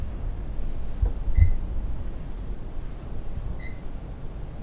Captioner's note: microphone beeping